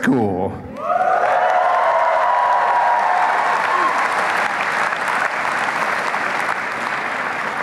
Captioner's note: applause and cheering